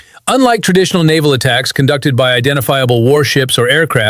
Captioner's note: thoughtful